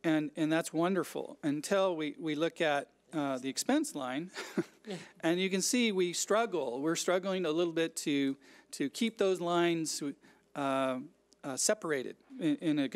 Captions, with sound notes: And that's wonderful until we look at the expense line (chuckles) and you can see we struggle, we're struggling a little bit to keep those lines separated in a good way.